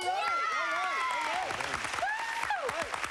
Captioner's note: cheers and applause